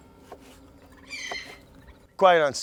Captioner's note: bird squawking